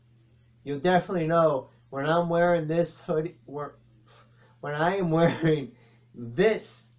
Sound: chuckles

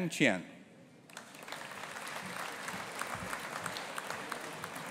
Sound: audience applauding

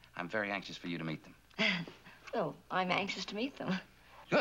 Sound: chuckles

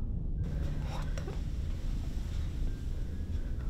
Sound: whispering

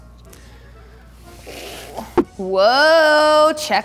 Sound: groaning

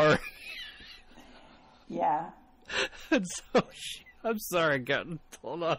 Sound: DJ laughs

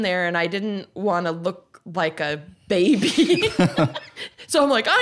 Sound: laughs

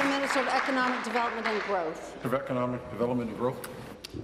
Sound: applause

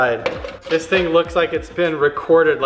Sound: metal clatters

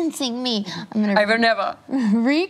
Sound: imitates German accent

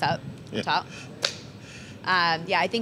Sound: slap

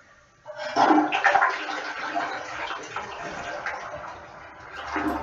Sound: toilet flushed

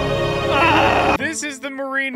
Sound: screams

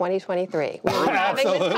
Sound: laughter

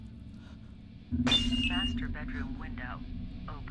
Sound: glass crashes

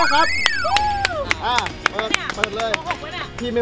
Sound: applauding

